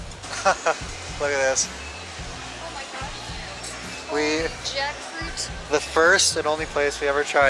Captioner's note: laughter